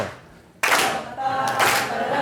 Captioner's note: clapping; voiceover